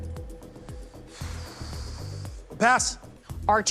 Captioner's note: exhales deeply